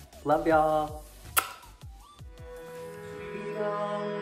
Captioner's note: kiss